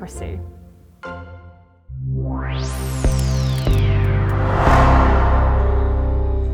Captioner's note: graphics whooshing; upbeat music